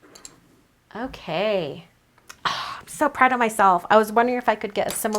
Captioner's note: sighs